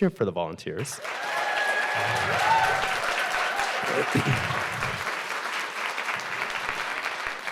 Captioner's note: audience applauding; audience cheering